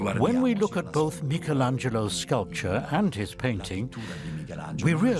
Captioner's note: in Italian